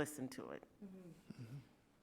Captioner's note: board member grunts affirmatively